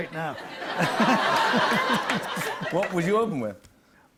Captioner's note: laughter